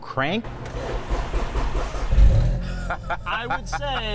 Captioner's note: engine cranks; laughs